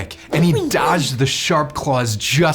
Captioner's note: boy grunting